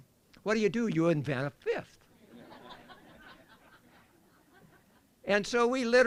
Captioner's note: laughter